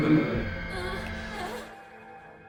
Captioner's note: groaning